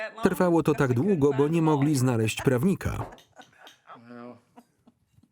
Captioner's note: laughing